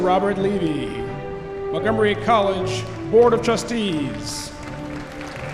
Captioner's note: cheering